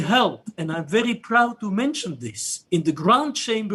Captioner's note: speaks portuguese